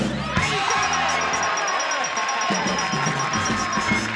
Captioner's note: ding ding; cheering